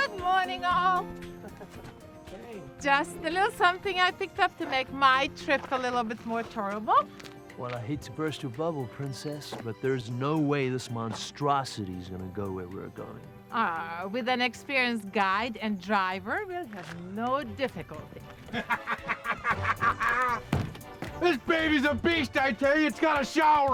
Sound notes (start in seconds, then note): 1.4 laughs; 15.1 laughs